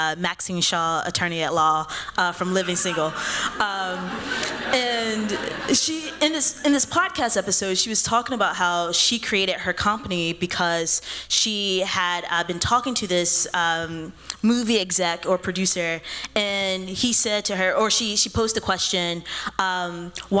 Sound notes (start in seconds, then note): 2.6 laughter